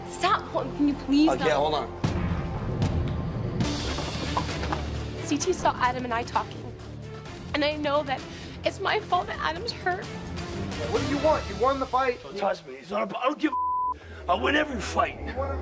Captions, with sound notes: - Stop, can you please--- - OK, hold on. (ominous music) - CT saw Adam and I talking and I know that it's my fault that Adam's hurt. - What do you want? You won the fight. - Don't touch me, I don't give a (beep). I'll win every fight.